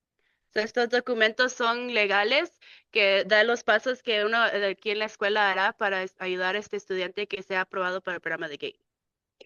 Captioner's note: speaking in Spanish